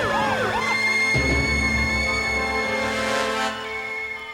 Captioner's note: teapot hissing